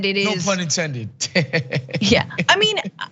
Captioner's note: laugh